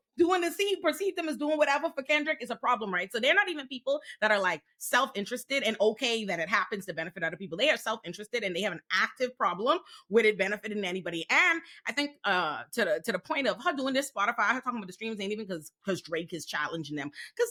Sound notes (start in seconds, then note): none